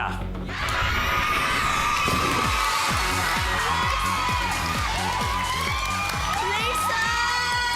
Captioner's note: applause, cheering